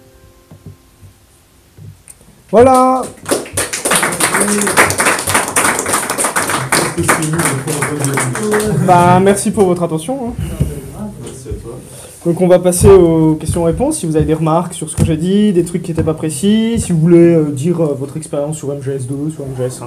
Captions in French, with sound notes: (applaudissements) Bah merci pour votre attention Donc on va passer aux questions/réponses, si vous avez des remarques sur ce que j'ai dit, des trucs qui était pas précis, si vous voulez dire votre expérience sur MGS2 ou sur MGS1,